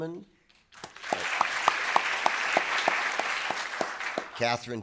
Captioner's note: audience applauding